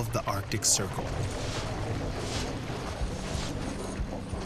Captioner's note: snow crunching